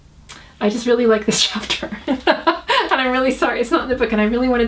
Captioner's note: laughs